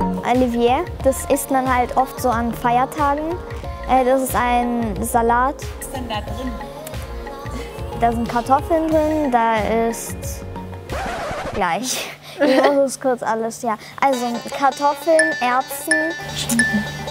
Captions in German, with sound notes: Olivier, das isst man oft an Feiertagen, das ist ein Salat. Da sind Kartoffeln drin, da ist ... (Verzerrter Ton) Gleich ... ich muss nur kurz alles ... ja. Also, Kartoffeln, Erbsen ... - Schinken.